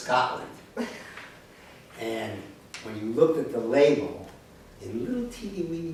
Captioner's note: laughter